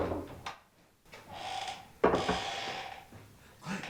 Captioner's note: knocks; door creaks